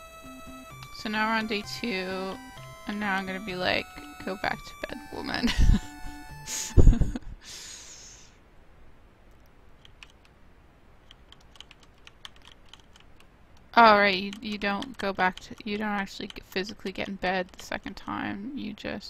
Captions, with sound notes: So now we're on day two and now I'm gonna be like, "go back to bed woman." [Laughs] [Keyboard clicking] All right, you don't go back to--you don't actually get physically get in bed the second time, you just...